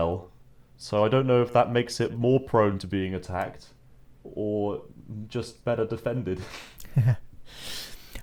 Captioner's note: chuckles